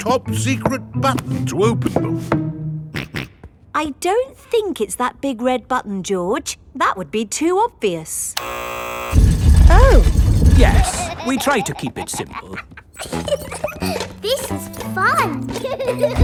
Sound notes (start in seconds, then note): 2.9 snorts; 8.4 buzzer sounds; 13.2 giggles